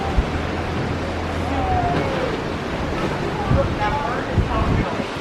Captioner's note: nearby guests cheering; water rushing loudly